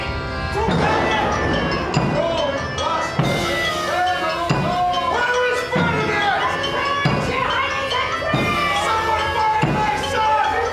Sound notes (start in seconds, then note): 7.6 COMPANY yelling